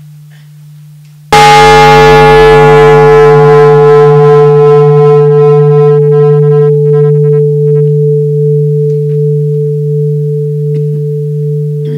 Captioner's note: the bell is invited to sound